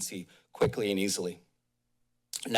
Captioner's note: pause